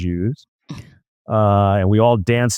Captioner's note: laughs